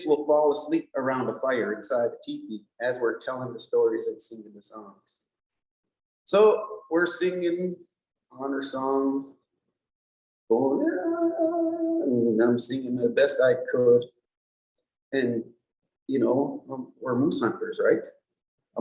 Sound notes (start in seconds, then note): 9.7 hums the tune